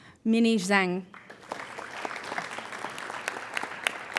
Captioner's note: applauding